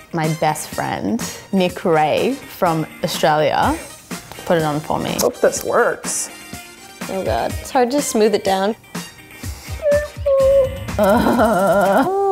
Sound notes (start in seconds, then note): 9.6 squealing nervously; 9.7 groaning